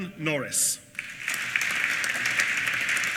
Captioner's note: applause